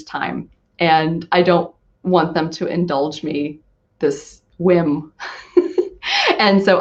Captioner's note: laugh